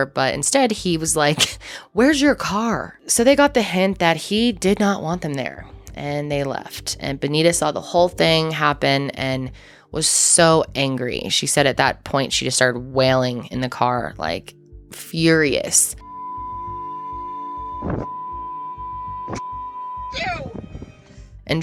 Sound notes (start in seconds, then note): 1.5 laughing; 16.0 beep